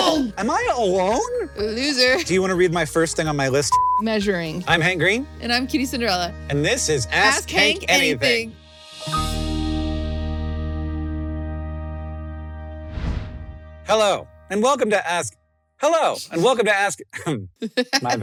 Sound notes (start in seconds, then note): 8.9 bright jingle; 12.8 whoosh; 17.6 chuckles